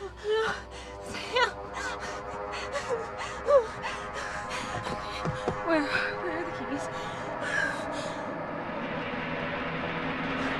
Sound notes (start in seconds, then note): 0.2 ominous music; 7.5 panicked breathing; 8.5 ominous music